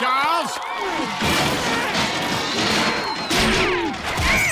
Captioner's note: crashes; grunts